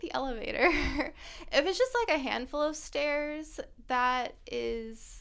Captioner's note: laughter